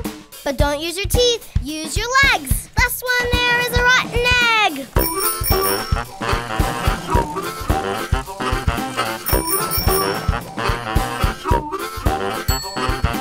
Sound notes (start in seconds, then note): 4.7 bells jingle